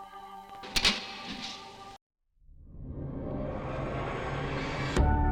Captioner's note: light switch clicking